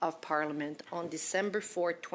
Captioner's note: speaking French